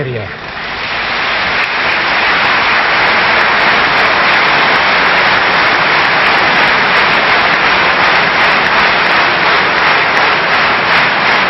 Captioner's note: applause